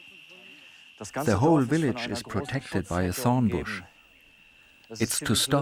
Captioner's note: in German